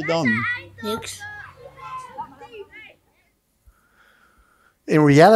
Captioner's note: child speaks in foreign language